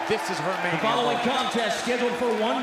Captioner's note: bell ringing